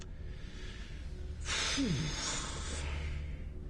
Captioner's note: slGHS DEEPLY